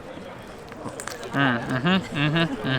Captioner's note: crunch sound